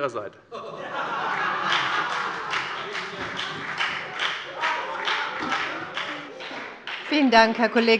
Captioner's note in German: Heiterkeit und Beifall bei der FDP und bei Abgeordneten der CDU